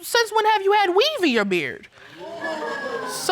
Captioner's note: audience laughs